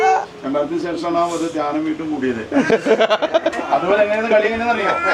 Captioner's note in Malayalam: പൊട്ടിച്ചിരി